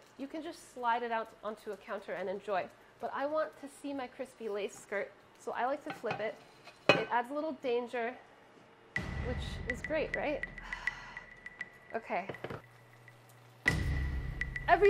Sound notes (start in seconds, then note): 10.5 suspenseful music; 10.6 sighing; 13.6 dramatic music